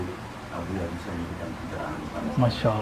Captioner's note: laughs